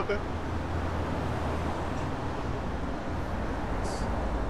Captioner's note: stammers and mumbles